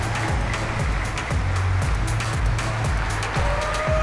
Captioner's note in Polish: oklaski